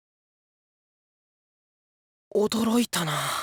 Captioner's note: silence